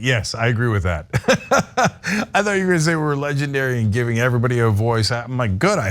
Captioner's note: laugh